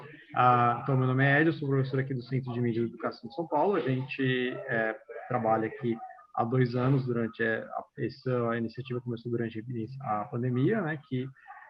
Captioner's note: non-english speech